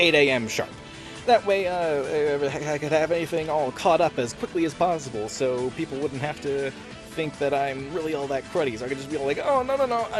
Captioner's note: stammers profusely